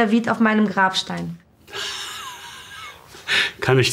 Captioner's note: laughs